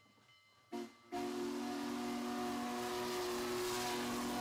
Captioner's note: train whistle